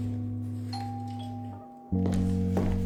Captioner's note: doorbell ringing